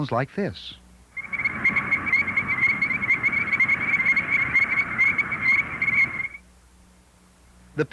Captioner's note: chorus frog sounds